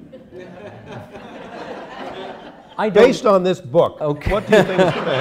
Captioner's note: laughter